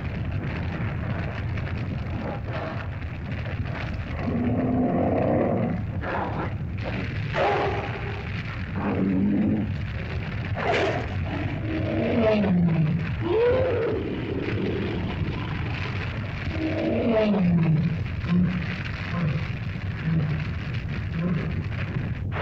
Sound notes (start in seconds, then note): 0.2 fire crackles; 4.1 lizard growls & bellows